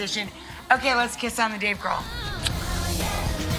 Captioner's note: kiss